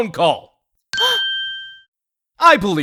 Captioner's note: gasp